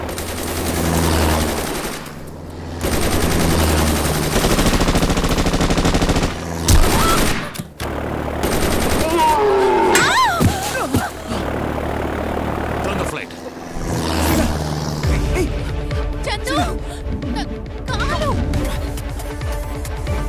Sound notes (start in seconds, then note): 0.2 Rapid gunfire; 9.0 Camel grunts